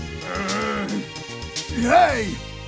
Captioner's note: growls